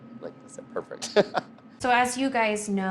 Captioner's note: laughs